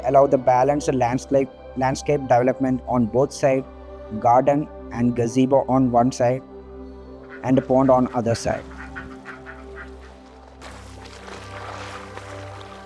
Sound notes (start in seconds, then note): 8.8 ducks quacking; 10.3 paddling in pond